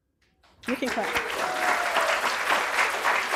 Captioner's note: applause